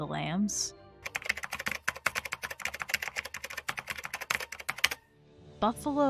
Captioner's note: typing noises